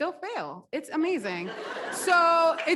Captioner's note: audience laughs